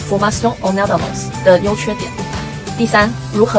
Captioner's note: in french